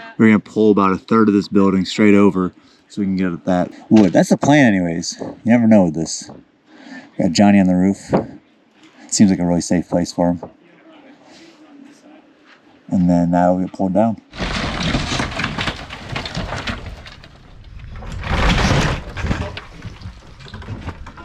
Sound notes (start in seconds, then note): 14.3 building crumbling; 18.5 wood crashing